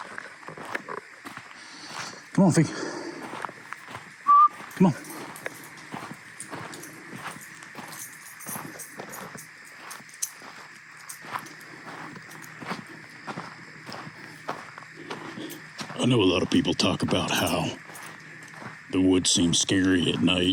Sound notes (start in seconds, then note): 4.2 whistles